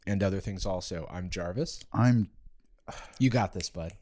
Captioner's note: sighs